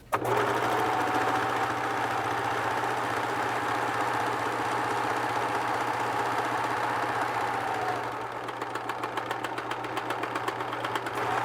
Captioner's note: sewing machine sounds